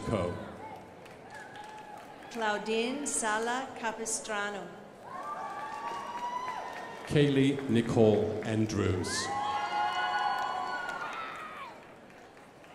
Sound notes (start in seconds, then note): 0.5 crowd applauding; 5.0 crowd applauding